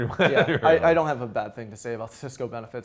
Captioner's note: laughing